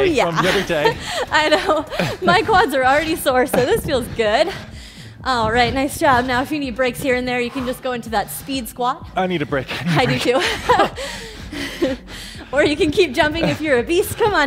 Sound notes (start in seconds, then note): 11.0 breathes heavily